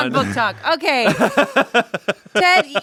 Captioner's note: laughs